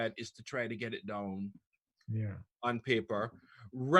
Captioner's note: none